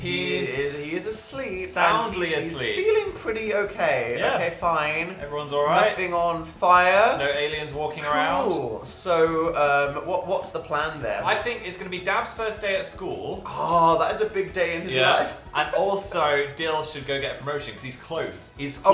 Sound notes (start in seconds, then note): 15.1 fake sobs